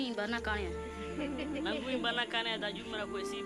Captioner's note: laughter